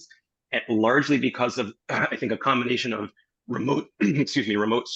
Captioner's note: cough